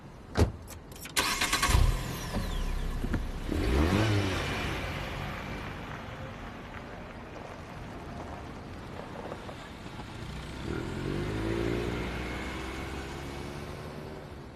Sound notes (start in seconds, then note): 0.9 engine starting; 2.8 engine revving